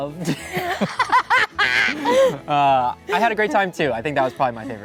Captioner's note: laughter